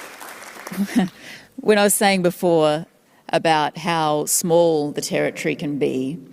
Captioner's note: applause